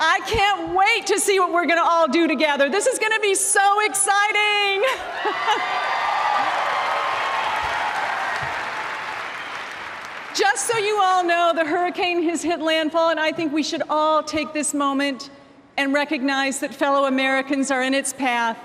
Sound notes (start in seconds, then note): 8.5 applause